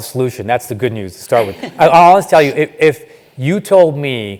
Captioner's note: laugh